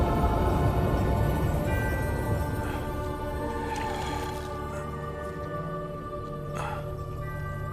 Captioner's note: mystical music; wind whooshing